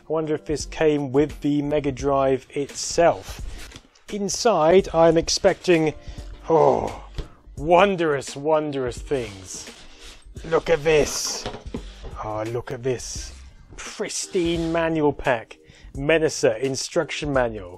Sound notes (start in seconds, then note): 9.2 sounds of sliding box delight